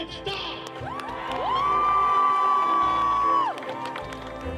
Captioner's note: cheering